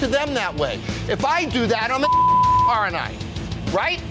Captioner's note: beep